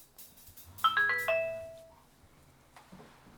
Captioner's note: phone rings